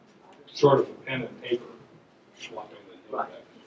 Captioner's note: voiceover; voiceover